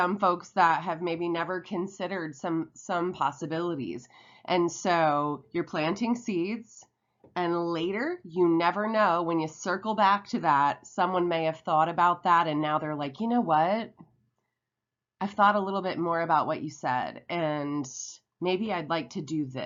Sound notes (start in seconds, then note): none